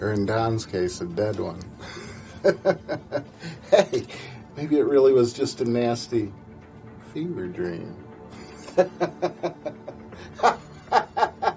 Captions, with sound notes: in Don's case, a dead one (laughs) Hey, maybe it really was just a nasty fever dream (laughs)